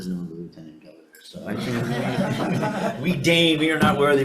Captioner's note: all laugh